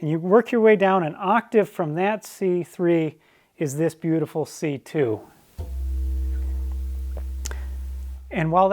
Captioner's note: chime sounds